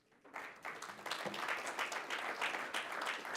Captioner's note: applause